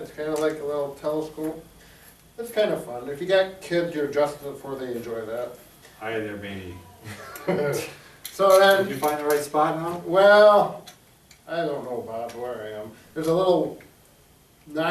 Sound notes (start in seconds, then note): 7.0 both laugh